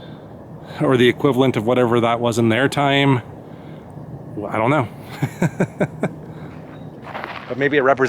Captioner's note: laughter